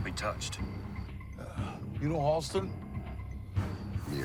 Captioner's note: sighs